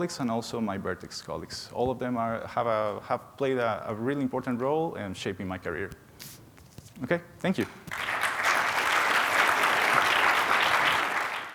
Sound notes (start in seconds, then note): 7.9 audience applauding